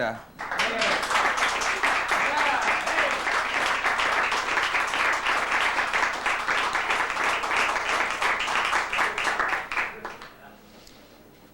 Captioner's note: applause